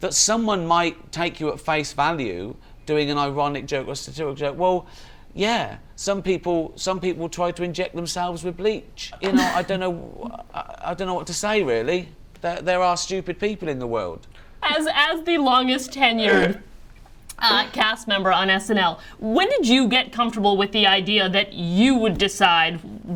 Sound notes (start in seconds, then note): 9.2 laughs